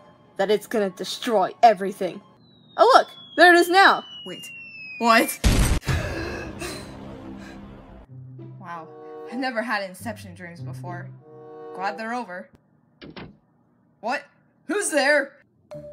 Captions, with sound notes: that it's going to destroy everything. Oh, look! There it is now! Wait...what? *explosion* Wow... I've never had inception dreams before. Glad they're over. *door closes* What? Who's there?